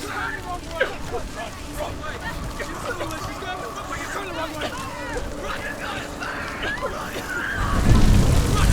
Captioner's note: sounds of screaming, yelling continue; coughing